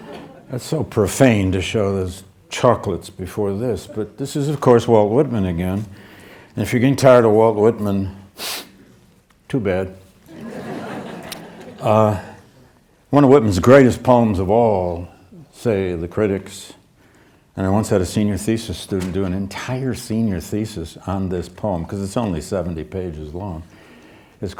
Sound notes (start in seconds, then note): 10.3 audience laughing